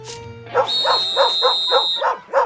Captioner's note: whistle blows, dog barking